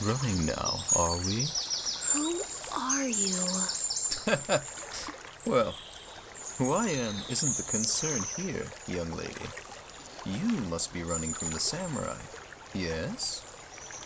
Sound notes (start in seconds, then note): 4.1 chuckles